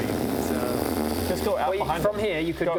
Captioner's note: raspberry of disgust